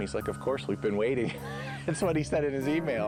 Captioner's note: laughing